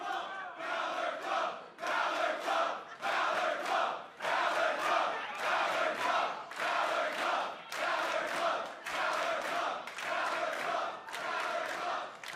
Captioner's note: fans chanting